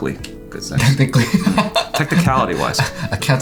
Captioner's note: laughs